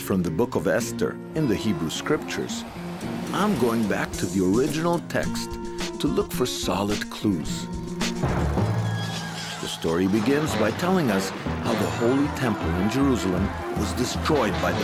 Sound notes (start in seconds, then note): 7.7 tense percussion music; 8.8 horses neigh